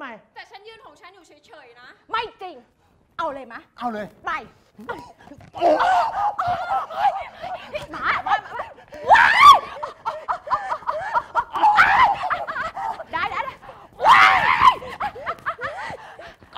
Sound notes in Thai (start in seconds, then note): 6.9 ร้อง; 8.5 หายใจแรง; 8.9 ร้อง; 13.9 ร้อง